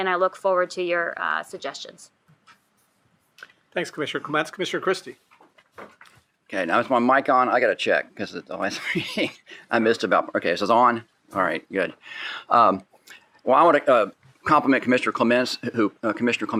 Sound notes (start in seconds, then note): 8.7 chuckles